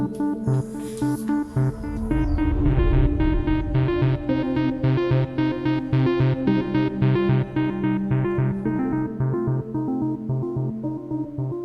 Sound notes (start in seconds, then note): 1.0 Darren sighs